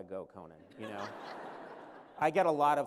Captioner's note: laughter